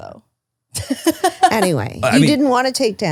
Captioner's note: laughs